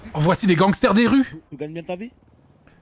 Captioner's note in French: Said, accent espagnol